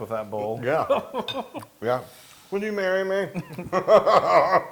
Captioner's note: laugh